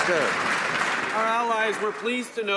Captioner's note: applause